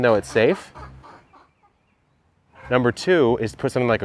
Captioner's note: chicken clucks